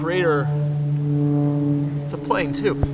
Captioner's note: plane engine howls